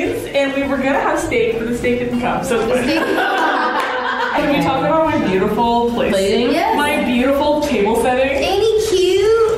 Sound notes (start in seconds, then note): 2.8 laughing